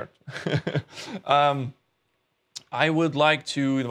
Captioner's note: laughs